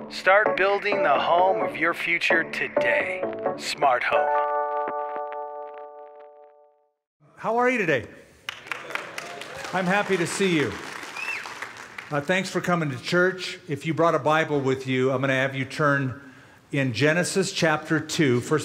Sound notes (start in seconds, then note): 8.4 applause